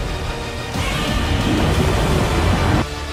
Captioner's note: Godzilla Roars In Anger